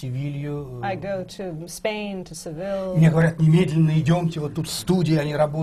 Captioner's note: foreign language not transcribed